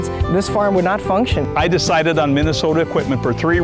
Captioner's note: none